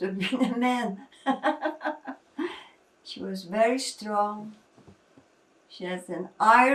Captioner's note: laughing